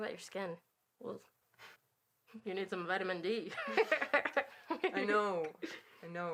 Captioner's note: laughing